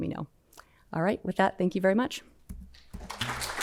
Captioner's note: applause